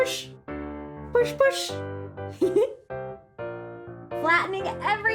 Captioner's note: giggles